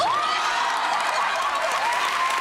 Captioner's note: laughter; cheers and applause